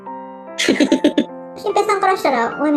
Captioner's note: laughs